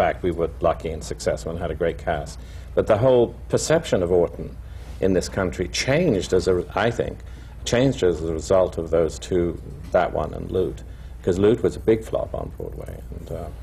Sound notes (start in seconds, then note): none